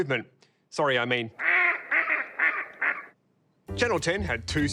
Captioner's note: bird noises